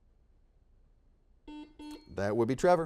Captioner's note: series of beeps